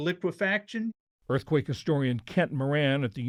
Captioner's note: voice-over